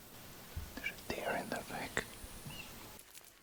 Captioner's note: whispers